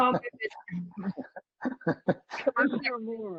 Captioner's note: laughter